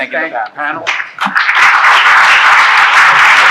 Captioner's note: applause